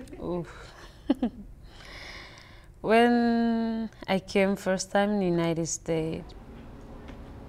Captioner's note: chuckles